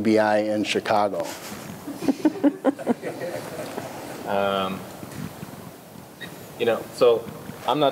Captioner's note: laughter